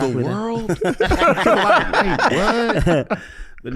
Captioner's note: group laughs